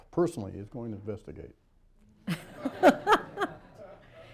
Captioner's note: laughter